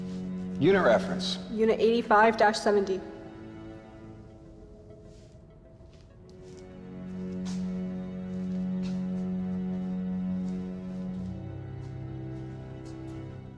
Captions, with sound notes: Unit reference. - Unit 85-70. (suspenseful music continues) (footsteps thumping)